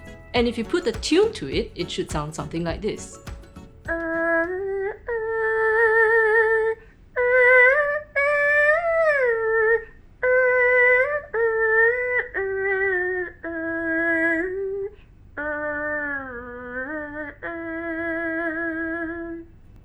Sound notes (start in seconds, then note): 3.7 mimics the sound of er hu